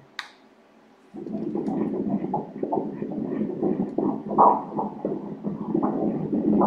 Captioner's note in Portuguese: batimentos cardíacos